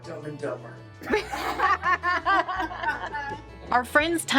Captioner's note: group laughing